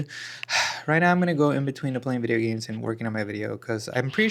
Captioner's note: sighs and gasps